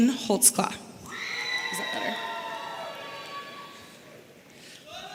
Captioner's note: audience cheering